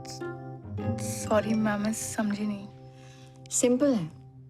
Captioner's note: message tone